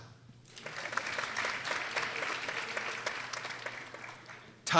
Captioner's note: people applauding